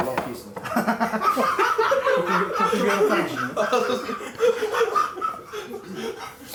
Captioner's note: huge laughter